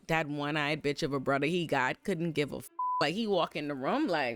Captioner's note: beep